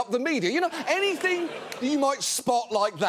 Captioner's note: audience laughing